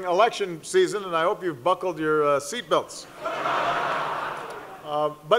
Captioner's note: laughter